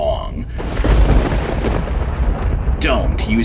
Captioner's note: thunder cracking